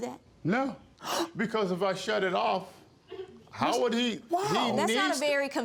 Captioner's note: gasps